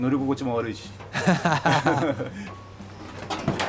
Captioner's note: laugh